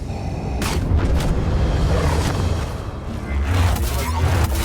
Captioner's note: sabers crashing; dramatic music